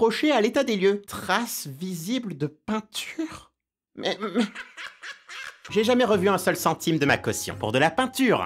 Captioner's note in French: Rire de l'agent